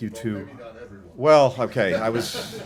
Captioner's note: laughter